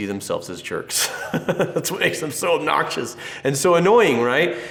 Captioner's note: laughs